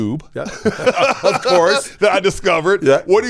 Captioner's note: laughing